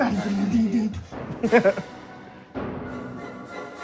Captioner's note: laughs